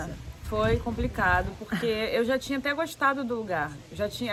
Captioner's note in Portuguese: laughing